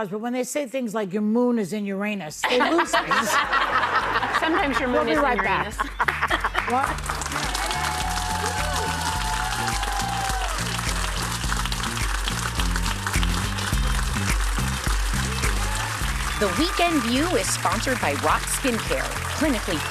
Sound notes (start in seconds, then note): 10.8 cheers and applause